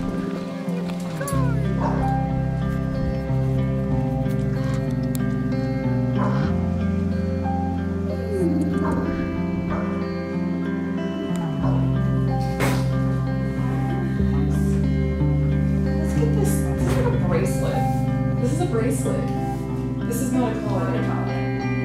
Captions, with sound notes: There you go. [Bark] [Growl] Let's get this... this is a bracelet. This is a bracelet. This is not a collar. It's not a collar.